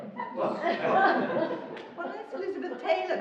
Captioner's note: laughing